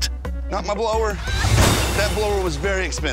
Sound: crashes

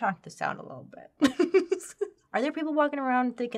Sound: laughs

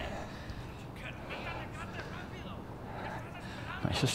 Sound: cartel speaking in Spanish

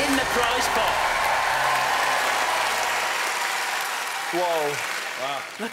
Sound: cheering

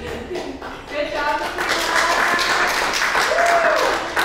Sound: crowd applauding

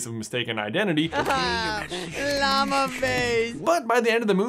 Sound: sobs

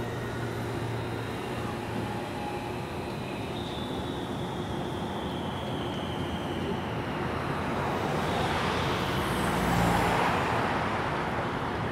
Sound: industrial sounds

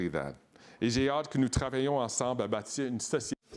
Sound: speaking in French

